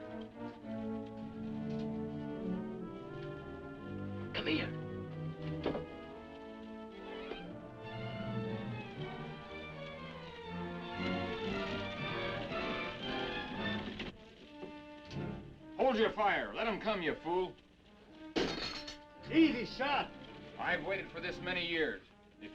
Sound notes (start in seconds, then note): 0.1 dramatic music; 5.6 dramatic music; 18.4 glass breaking